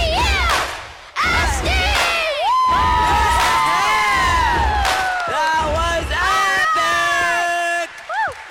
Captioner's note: cheering